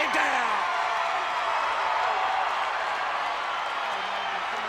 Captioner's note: audience cheers